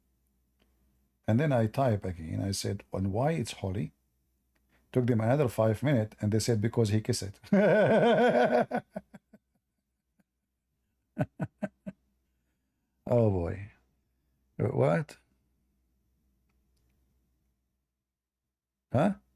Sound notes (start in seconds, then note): 7.4 Ketawa